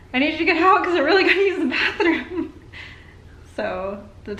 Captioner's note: laughter